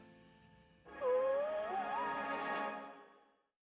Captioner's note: squeals